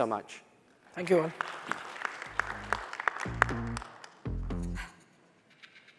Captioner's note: applause